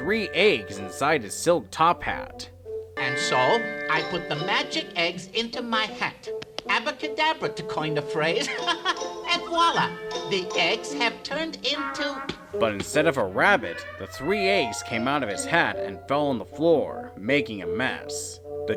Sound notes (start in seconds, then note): 8.3 laughs